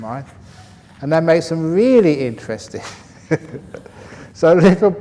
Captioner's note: laughs